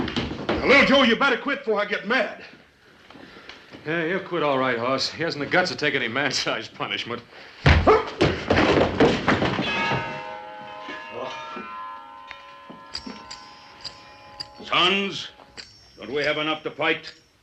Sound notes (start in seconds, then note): 7.6 groans; 7.6 thud; 9.6 clock chimes